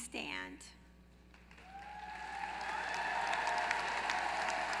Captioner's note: applause